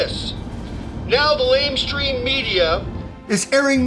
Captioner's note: radio